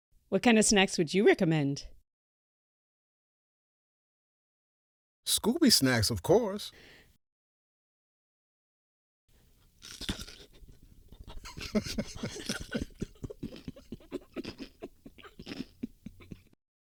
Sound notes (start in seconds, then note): 9.8 both trying hard to not laugh, crunch-crunch-crunch; 9.8 outrageous crunch